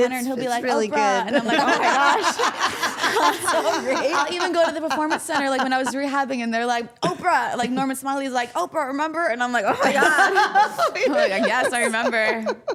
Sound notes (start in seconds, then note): 3.0 all laughing